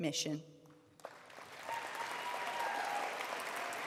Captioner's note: applause